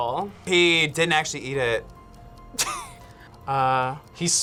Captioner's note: laughs